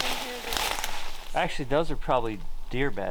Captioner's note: brush rustling